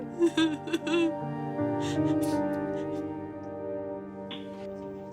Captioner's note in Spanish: Sollozos